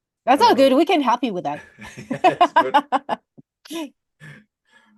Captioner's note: laughs